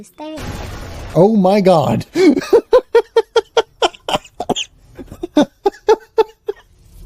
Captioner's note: laughs